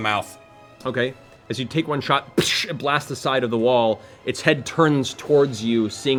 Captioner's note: gunshot noise